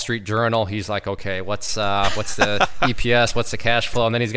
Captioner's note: laughing